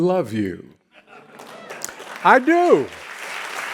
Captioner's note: audience clapping and laughing